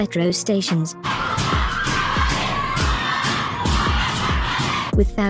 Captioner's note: chanting